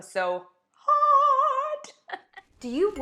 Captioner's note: laughs